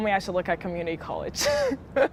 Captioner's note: laughter